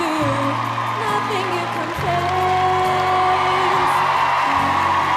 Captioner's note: crowd Cheers